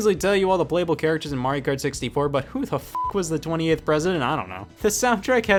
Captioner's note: beep